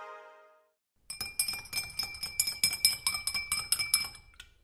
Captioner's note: rising electronic note; tinkling